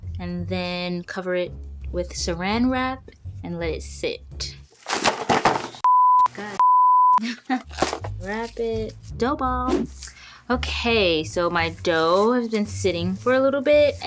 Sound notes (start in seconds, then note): 4.8 box crashing around; 7.2 laughing